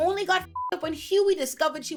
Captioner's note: beep